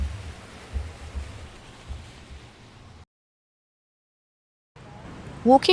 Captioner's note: blank Audio